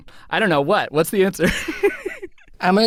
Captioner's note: laughing